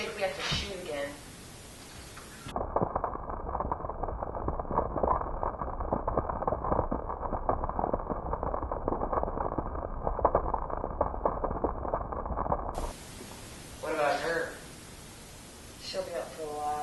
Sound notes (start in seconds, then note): 2.3 gurgle, bubble